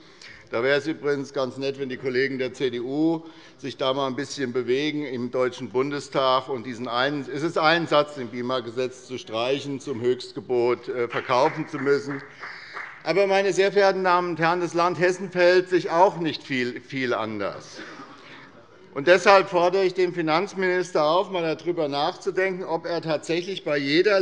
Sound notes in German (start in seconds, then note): 11.0 Beifall